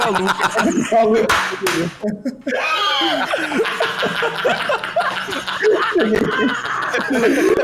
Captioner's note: laughs